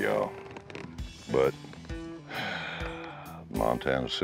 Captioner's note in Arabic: يزفر